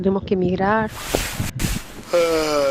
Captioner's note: yawns